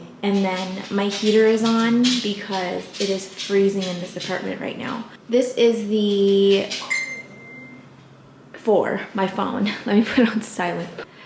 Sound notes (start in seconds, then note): 6.8 phone dings